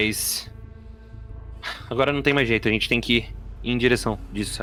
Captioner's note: humpf